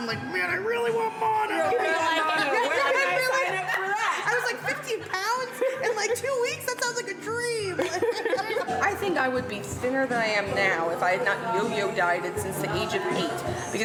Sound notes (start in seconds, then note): 1.9 chattering